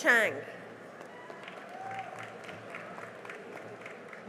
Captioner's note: cheering and applause